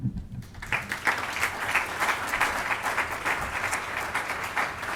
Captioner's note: audience applauds